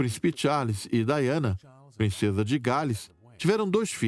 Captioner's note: voiceover